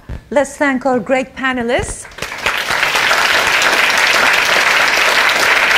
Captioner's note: audience applauding